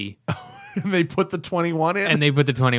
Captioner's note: laughter